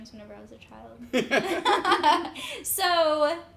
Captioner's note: laugh